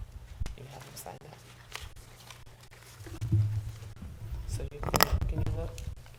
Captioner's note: board chatting quietly